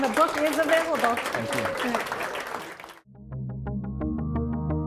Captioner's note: audience applauding; lively instrumental music